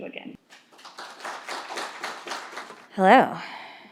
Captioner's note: audience applauding